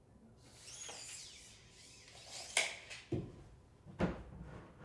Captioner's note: tape measurer squeaking